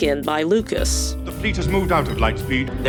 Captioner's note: veers